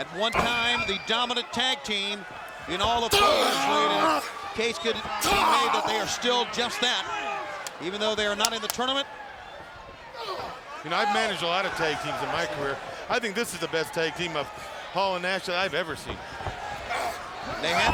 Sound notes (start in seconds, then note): 3.0 fists thudding